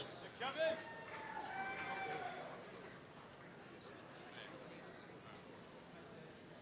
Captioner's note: applause and cheering